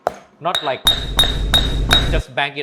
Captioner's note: banging on mortar and pestle